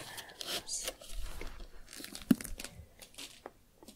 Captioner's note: creaking, shuffling